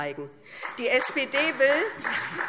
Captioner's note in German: Beifall SPD